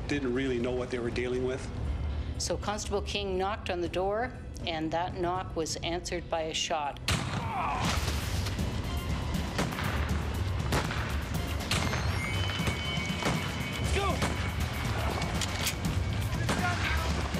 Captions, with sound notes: didn't really know what they were dealing with. - So, Constable King knocked on the door and that knock was answered by a shot. (gun fires) (groans) (suspenseful music) (guns firing) - Let's go.